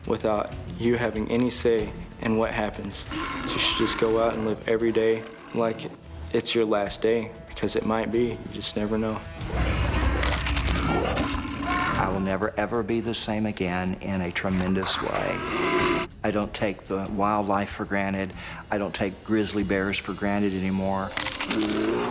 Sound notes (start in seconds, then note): 9.5 bones crunching; 10.6 screaming; 10.9 bear growling